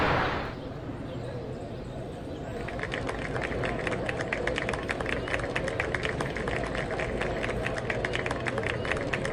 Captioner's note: applause